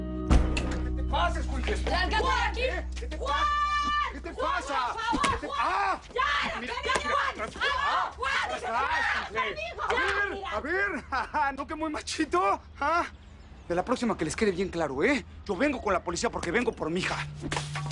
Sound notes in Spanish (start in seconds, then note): 8.7 Todos gritan; 11.1 Ríe